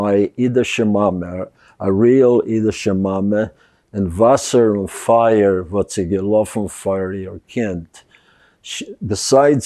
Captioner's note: yiddish